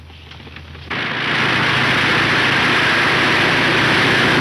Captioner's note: engine roaring